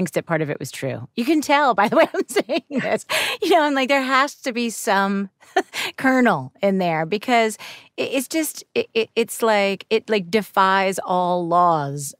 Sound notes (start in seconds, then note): 1.8 laughs; 5.3 chuckles